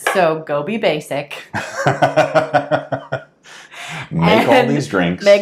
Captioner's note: laughing